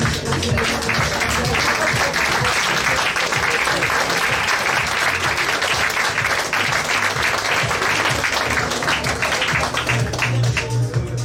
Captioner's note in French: Applaudissements